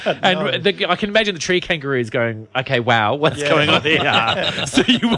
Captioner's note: laughs; laughs